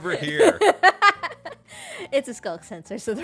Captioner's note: laughs